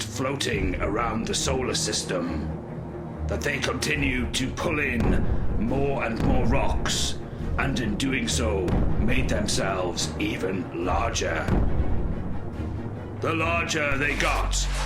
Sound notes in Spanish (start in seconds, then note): 4.4 explosión; 13.7 zumbido